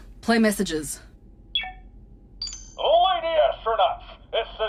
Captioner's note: pompous masculine American voice